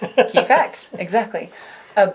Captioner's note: light laughter